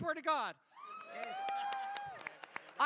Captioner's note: cheering